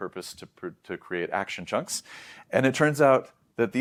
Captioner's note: inhales